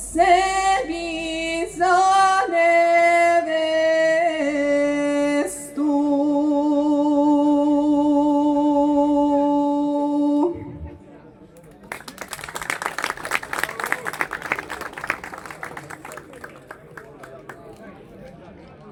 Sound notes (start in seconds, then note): 6.4 singing; 11.6 applause